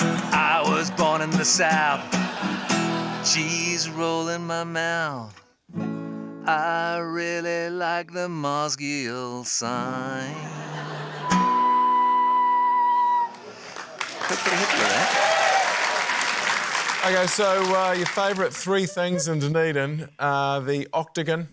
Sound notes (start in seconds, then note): 10.2 laughter; 11.2 blows note; 15.8 cheering, applause